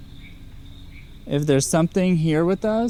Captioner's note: car